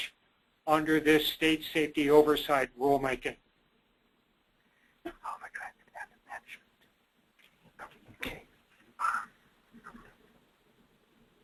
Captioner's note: whispering; long silence